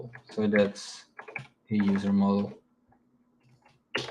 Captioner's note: keyboard clacking